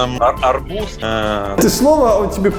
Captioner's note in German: murmelt